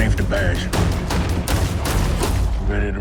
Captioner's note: gunshots